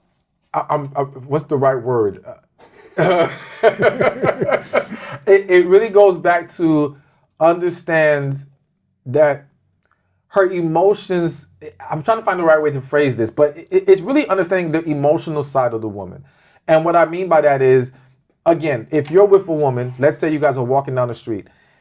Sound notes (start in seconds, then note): 2.6 laughs